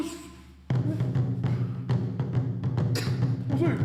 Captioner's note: both grunting